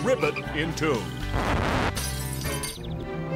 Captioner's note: record scratches, glass shatters